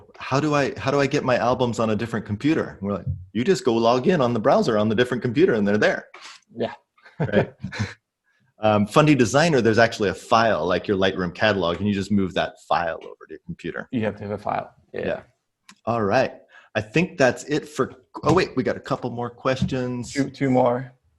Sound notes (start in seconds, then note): 7.1 laughs